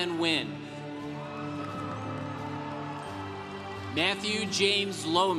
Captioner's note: congregation cheering